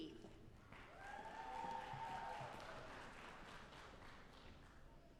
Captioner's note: audience applauding